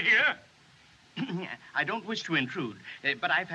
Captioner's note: clears Throat